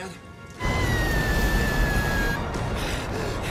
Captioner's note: screaming